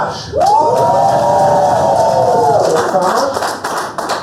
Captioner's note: cheers